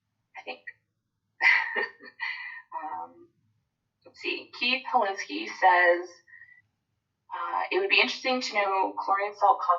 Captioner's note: laugh